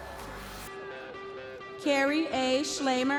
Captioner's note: audience members cheering